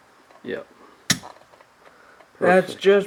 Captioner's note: metal scraping